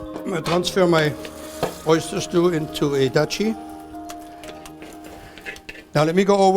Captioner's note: scraping